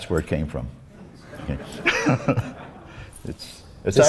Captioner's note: laughs